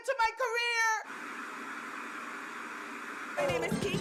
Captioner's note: static buzzing